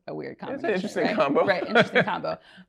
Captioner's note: laughs